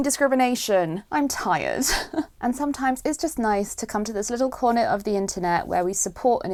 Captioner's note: sigh